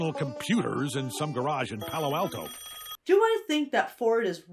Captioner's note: phone rings